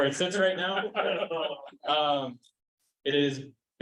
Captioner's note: chuckling